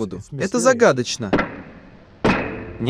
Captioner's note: gavel strikes